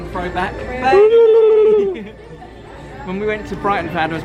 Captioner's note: makes Beluga whale noise